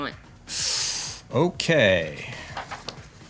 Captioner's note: hisses